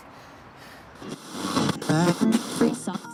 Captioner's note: radio static